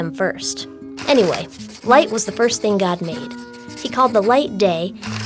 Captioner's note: writing and paper rustling continue